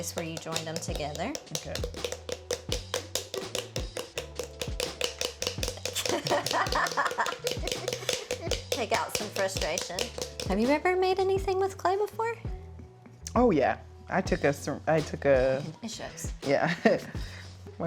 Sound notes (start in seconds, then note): 2.7 paddles thudding; 5.9 both laughing